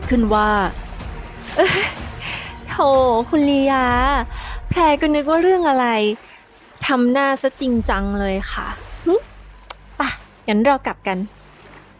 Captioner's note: Pha Phrae, chuckling